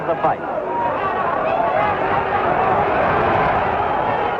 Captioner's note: crowd cheers